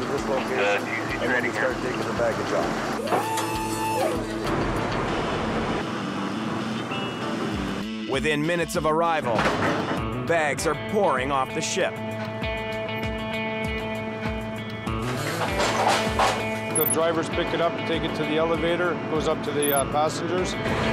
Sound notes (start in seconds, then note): 3.0 machine whirring; 12.3 gentle guitar instrumental; 15.2 metal clanging